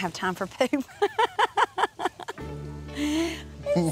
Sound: laughs

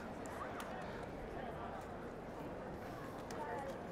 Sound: people speaking in the background

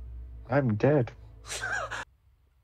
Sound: wheeze

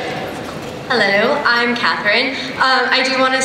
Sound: voiceover

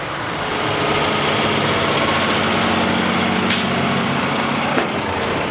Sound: truck engine humming

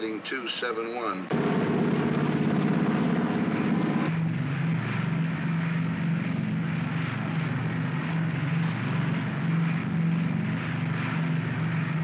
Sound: aircraft rumbles

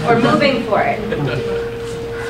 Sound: group laughs

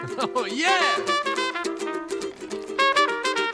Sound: jazz music; giggling

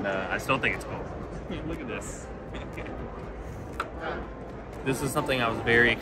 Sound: chuckles

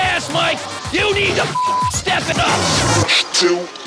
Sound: beep

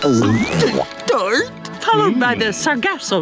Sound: gulps

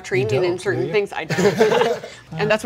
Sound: laughter

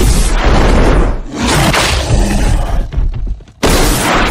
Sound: t-rex roars

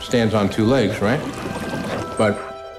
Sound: water bubbles

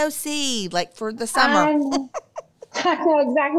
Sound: laughs

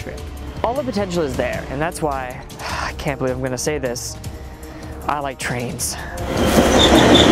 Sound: sighs

